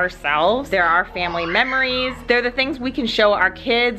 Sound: kids playing

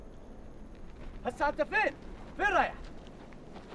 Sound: speaking foreign language

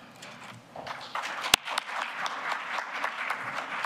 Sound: applause

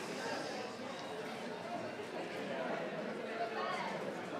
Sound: audience murmuring

